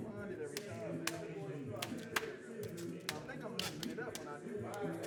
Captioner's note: people chattering; hands smacking